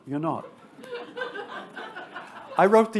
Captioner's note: attendees laughing